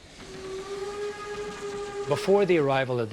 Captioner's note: train whistle blowing